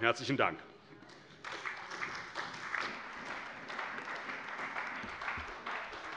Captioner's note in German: Beifall bei der CDU und dem BÜNDNIS 90/DIE GRÜNEN